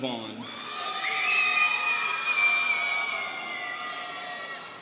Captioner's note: students cheering